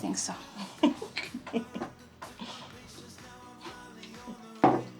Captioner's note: roommate chuckling